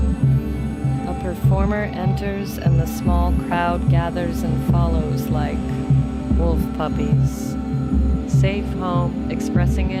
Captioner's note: high frequency feedback